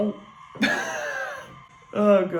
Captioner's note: giggles